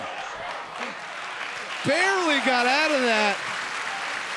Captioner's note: audience applauding